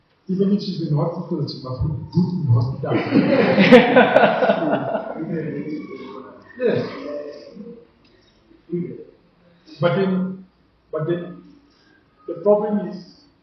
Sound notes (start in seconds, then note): 2.8 laughs